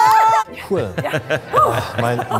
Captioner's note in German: Lachen